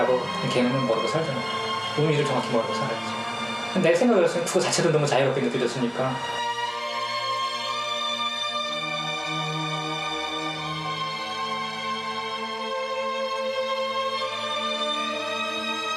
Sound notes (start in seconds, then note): 6.0 speaking in foreign language